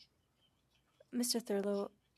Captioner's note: speaking French